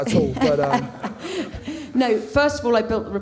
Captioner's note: laughs